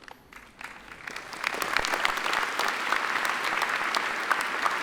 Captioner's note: attendees applaud